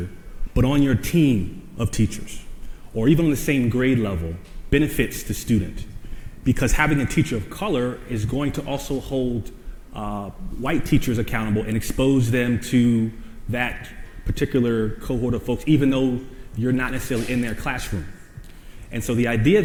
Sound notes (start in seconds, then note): none